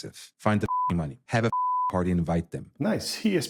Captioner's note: beep